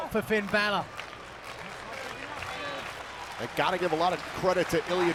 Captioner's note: applause